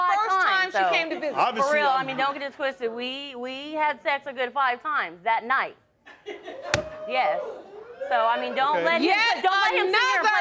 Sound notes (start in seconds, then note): 6.8 crowd laughing and cheering